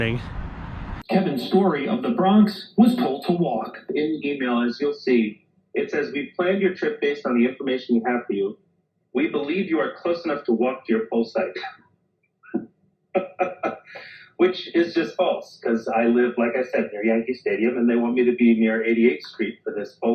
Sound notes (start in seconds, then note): 13.1 laughs